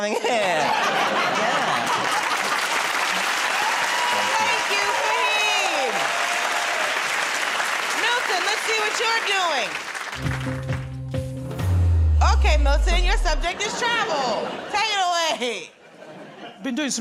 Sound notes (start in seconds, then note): 2.6 cheers and applause